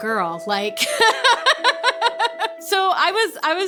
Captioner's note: laughing